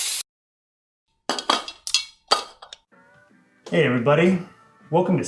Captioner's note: utensils clattering